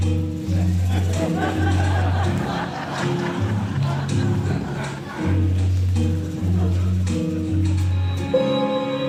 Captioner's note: bossa nova music; audience laughs; hopeful music